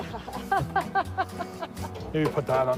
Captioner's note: laughing